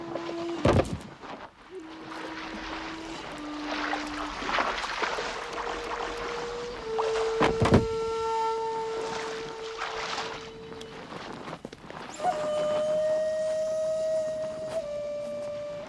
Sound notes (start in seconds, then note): 0.7 boxes thudding; 2.5 water splashing